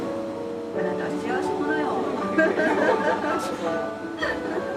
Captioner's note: laugh